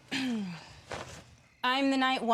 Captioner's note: clears throat